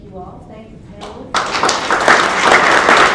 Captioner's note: applause